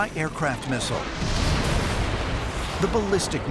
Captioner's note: explosion